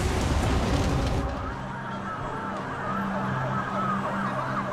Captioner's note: sirens